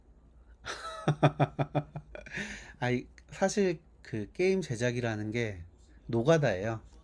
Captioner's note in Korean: 웃음